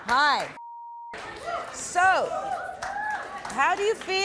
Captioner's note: beeps